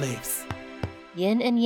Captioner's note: pat pat